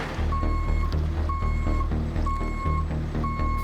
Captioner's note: car beeping